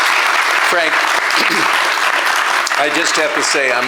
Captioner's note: applause